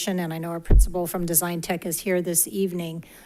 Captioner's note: none